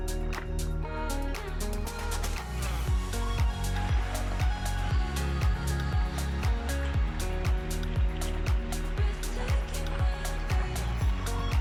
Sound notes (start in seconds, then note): 1.5 wind blowing; 4.3 soft music